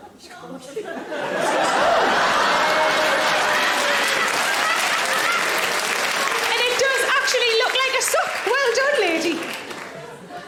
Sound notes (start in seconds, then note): 0.8 audience laughing; 1.3 audience applause